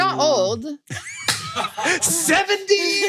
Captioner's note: laughs